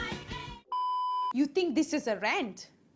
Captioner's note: beep